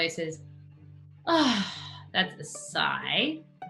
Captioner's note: Sophie sighs